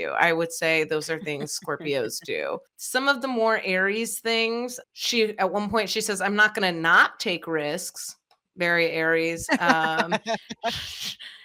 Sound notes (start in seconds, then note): 9.4 laughing